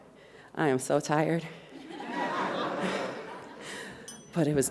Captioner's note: audience laughs